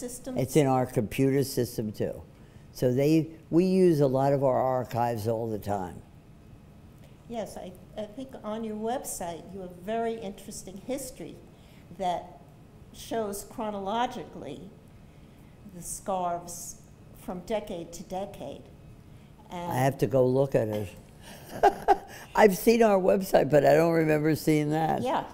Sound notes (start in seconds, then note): 21.3 laughs